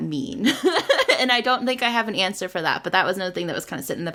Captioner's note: laughs